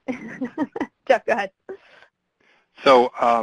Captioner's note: laughs